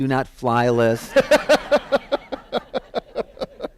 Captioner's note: laughter